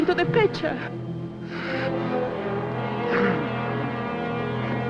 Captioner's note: breathing Heavily